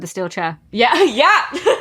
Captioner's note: laughs